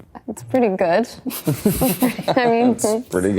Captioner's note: cast laughing